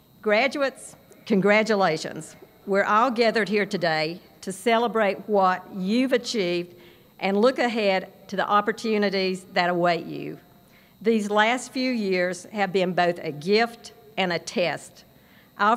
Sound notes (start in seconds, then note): none